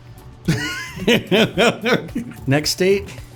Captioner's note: laughs